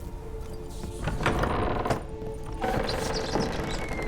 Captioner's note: door creaks open